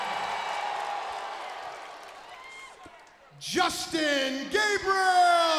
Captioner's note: crowd cheering